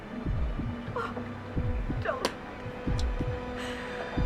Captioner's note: sobs